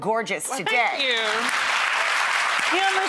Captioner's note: applauding